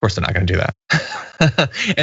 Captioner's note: laugh